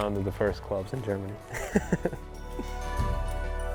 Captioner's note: laughter